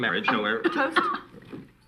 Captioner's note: coughing